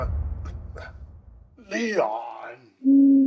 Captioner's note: hoot